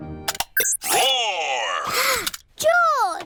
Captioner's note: gasps